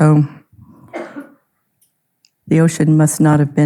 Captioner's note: audience member coughing